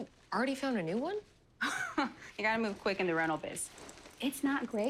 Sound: chuckles

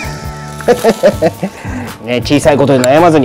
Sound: laughs

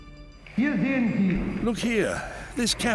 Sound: speaking German

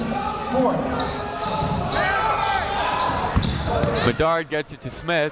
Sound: chatter

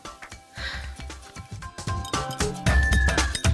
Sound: sighs; upbeat music

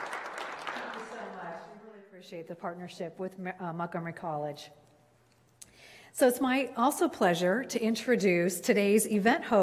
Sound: clapping

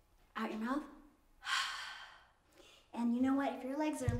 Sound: exhales; inhales

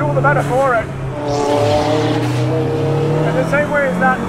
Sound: car engine roars

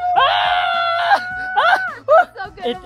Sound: both screaming

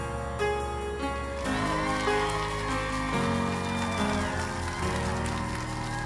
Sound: applause

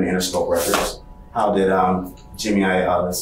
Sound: book skidding

